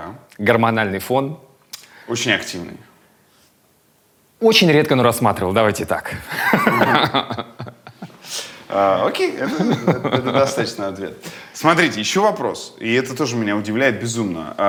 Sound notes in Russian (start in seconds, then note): 6.2 смеётся